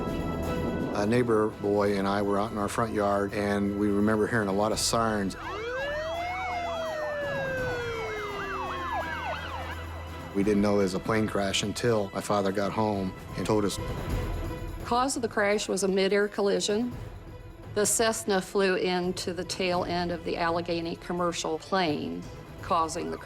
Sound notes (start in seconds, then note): 4.7 sirens wailing